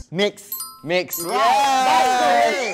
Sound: cheers in same taste

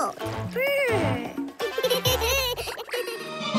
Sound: giggling

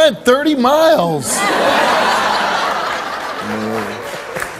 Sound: audience laughs

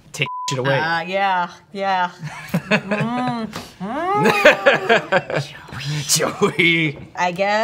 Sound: beep; groans

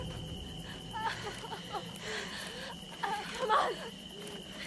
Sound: Allie groans

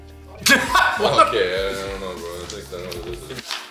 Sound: laughs

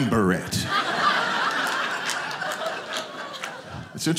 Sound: audience laughing

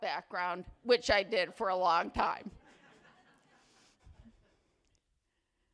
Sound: attendees laugh

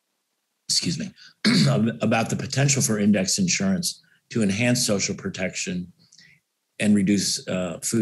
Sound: cough

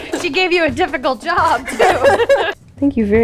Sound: laughs

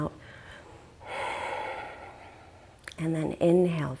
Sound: exhaling deeply

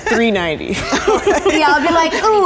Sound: laughing

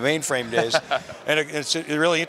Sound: laughing

